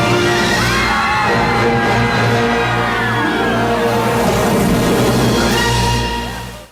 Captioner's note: adventurous music; people yelling